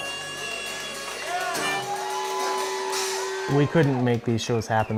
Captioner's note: cheering and applause